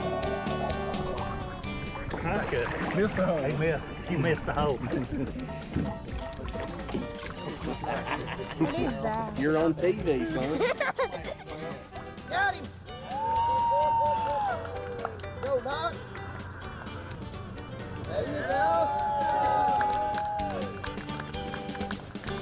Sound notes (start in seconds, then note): 4.1 laughs; 7.8 boy laughs; 9.5 fishermen cheering; 15.2 fishermen cheering